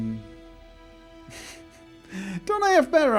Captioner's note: laughs